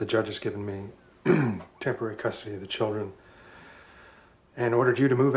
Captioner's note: clears throat